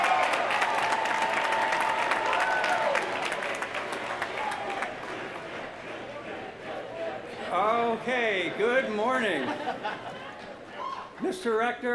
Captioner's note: applause